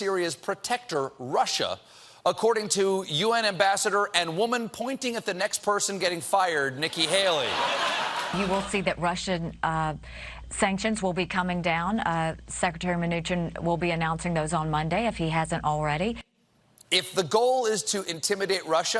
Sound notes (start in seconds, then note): 6.9 laughter